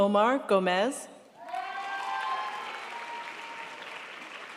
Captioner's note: crowd applauds